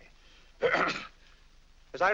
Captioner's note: clears throat